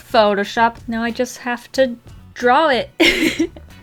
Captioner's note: giggles